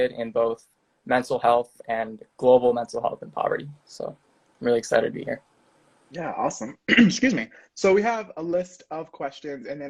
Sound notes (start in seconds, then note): 6.7 clears throat